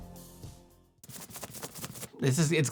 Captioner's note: plastic crinkling